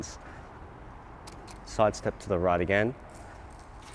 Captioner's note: clicking